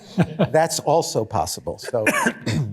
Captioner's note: laughter